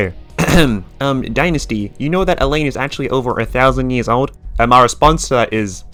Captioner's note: ahem